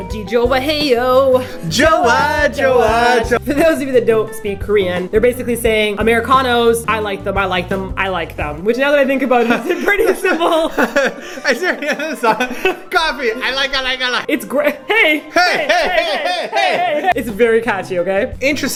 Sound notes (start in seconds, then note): 9.4 both laughing